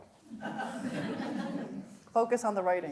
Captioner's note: audience laughs